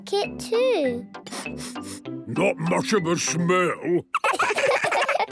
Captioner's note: sniffing; sniffs